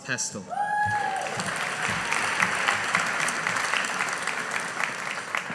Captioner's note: audience applauding